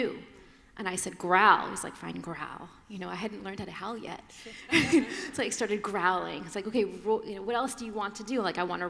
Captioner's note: laughter